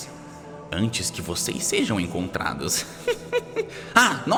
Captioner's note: laughs